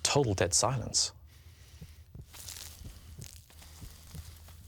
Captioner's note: heart beating